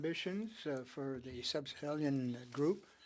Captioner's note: speaking French